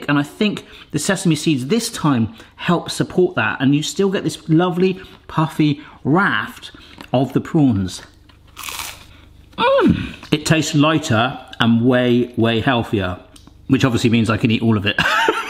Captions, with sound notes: and I think the sesame seeds this time help support that. And you still get this lovely puffy raft of the prawns. (toast crunching) It tastes lighter and way, way healthier, which obviously, means I can eat all of it.